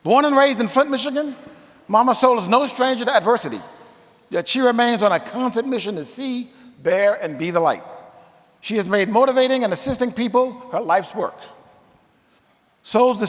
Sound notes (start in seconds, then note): none